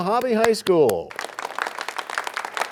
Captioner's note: applause